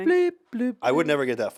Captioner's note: Ian hums